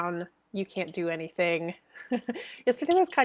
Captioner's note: chuckles